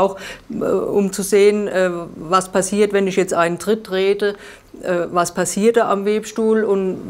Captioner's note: none